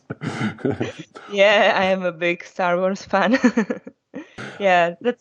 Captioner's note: laughs; laughs